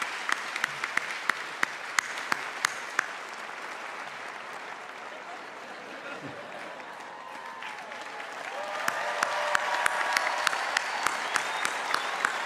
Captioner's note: cheers and applause